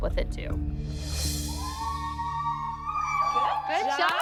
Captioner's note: screaming in joy